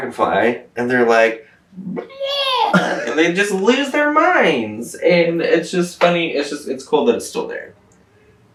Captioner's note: mimics cheering